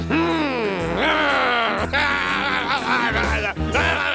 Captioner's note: growling; grumbling